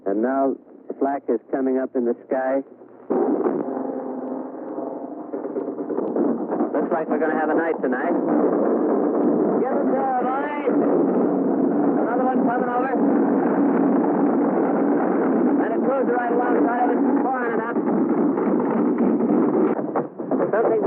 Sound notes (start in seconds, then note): 3.2 airplane whirring; 5.5 artillery firing